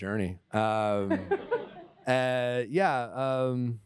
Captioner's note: laughter